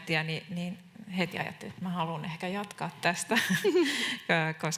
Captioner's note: naurahtaa